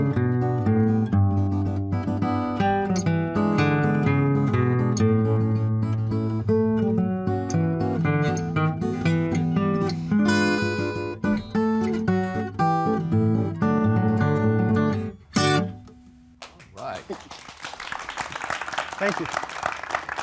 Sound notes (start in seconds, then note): 16.4 audience applauds